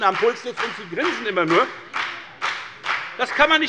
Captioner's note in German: Beifall bei der FDP